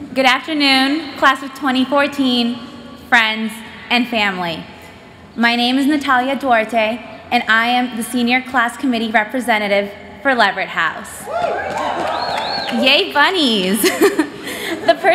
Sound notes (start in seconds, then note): 11.2 cheers; 13.8 laughs